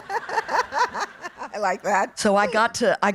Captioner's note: laughing